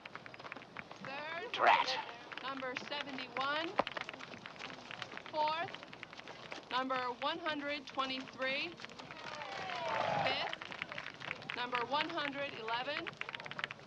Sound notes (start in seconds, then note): 9.2 audience cheering